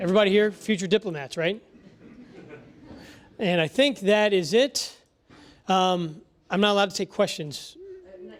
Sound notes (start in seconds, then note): 1.8 laugh